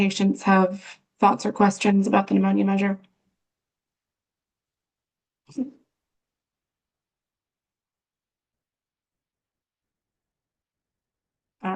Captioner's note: pause